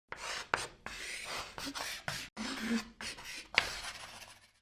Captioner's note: chalk scratching